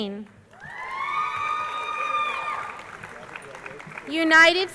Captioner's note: crowd cheering